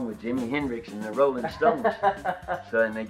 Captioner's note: laughing